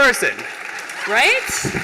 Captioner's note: applause